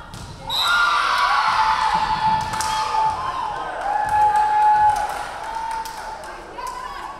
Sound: referee whistling; crowd cheering

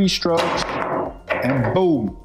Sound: balls clanging

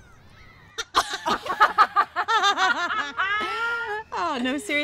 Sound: laughing

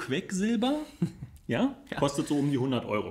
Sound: laughs

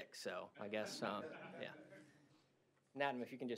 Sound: laughter

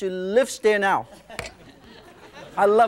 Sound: laughing

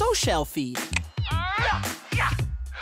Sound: screaming

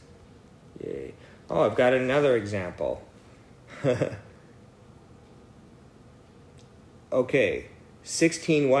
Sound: laugh

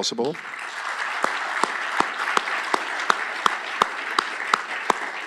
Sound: applause

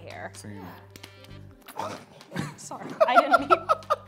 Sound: laughs

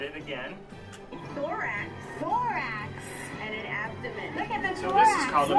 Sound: television

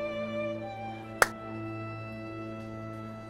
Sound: claps

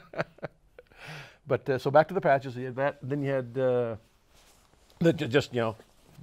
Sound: laughs

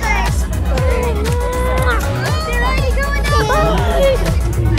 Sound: kissing sound

